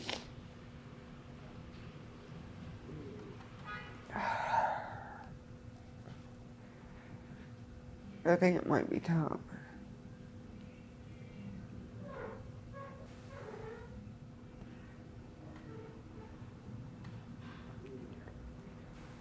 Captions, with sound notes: (sniffling) (sighing) I think it might be time.